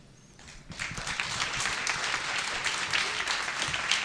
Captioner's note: audience clapping